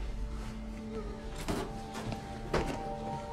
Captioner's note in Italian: lamenti